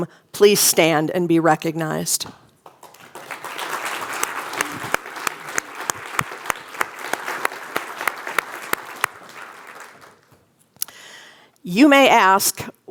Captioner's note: applause